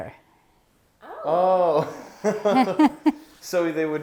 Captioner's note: laughs